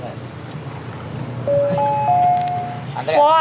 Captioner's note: bell